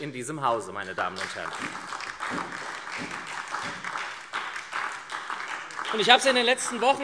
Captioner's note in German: Beifall SPD und DIE LINKE